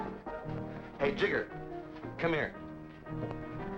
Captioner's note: pat